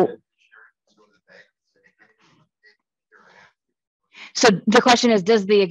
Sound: participant faintly speaking

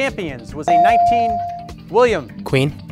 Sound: bell dings

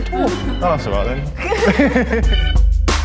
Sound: both laugh

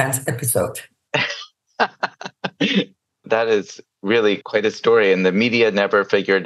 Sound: laughs

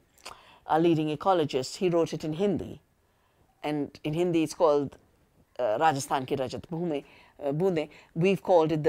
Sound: speaking Hindi

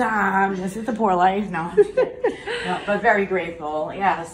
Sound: chuckling

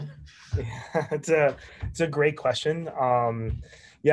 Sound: chuckles

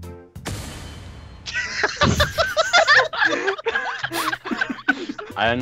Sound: laughter

